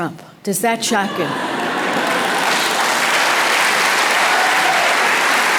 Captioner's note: audience applause